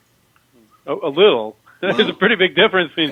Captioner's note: laughs